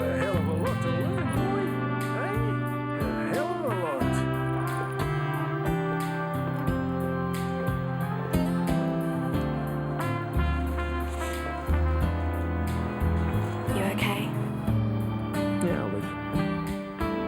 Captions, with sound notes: - You've got a hell of a look little boy. Got a hell of a (faintly speaking). (soothing music) - You okay? - Yeah, I'll live.